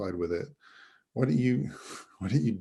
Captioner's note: chuckles